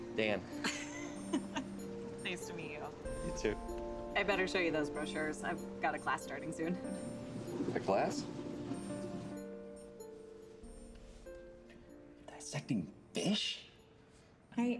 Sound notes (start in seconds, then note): 0.6 laughing